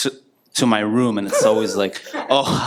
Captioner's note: giggling